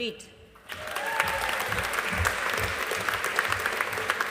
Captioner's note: audience applauding